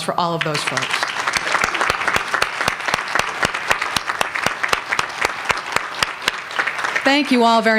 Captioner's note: applause